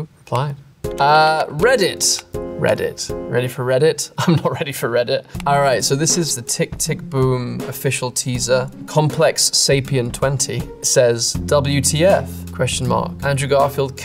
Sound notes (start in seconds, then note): 2.2 monotonous piano music; 4.3 chuckles